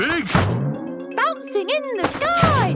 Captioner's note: snorts